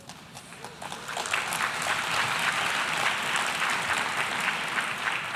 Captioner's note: applause